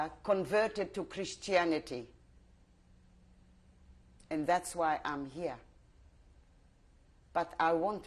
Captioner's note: pauses for 3 seconds